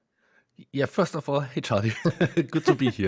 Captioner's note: laughs